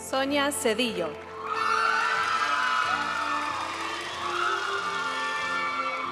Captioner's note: audience cheering and applauding; graduation music